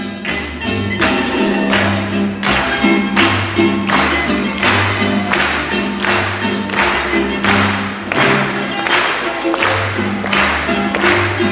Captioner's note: clapping rhythmically